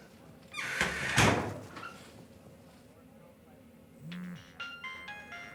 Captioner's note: door squeaking and clattering; phone ringing